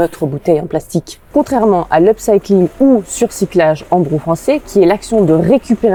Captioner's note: in good French